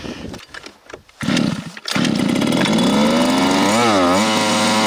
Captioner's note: engine roaring